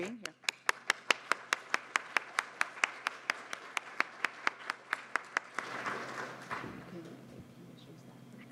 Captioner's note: applause